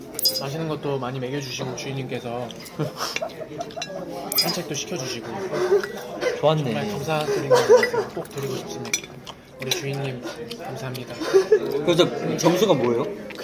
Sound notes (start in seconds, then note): 2.8 sobbing